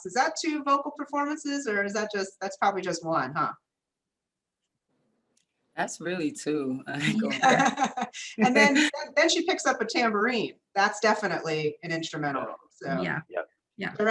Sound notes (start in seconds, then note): 7.0 laughter